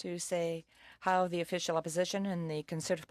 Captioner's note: speaking French